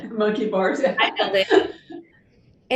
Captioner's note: laughs